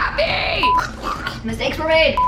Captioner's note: gurgling